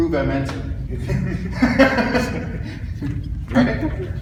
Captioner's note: chuckles